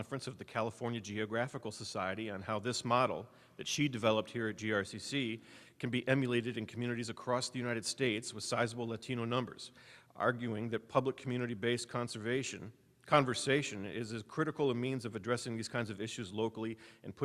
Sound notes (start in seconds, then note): none